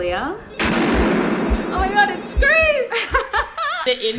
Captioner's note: gunshot/telephone rings; laughs